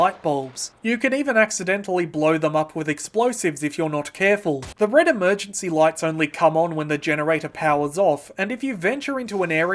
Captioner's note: perfectly cut gunshot